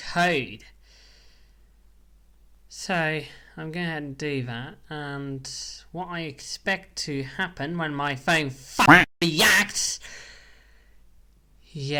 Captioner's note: quack